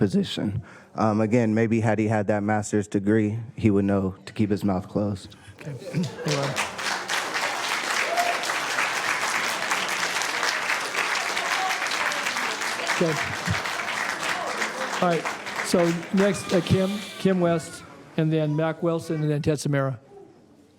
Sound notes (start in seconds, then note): 16.9 applause